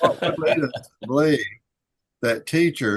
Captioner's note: laughs